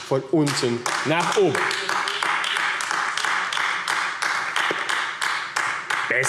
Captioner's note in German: Beifall AfD